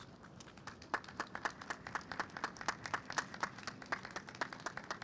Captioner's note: audience applauds